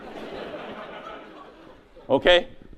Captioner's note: audience laughs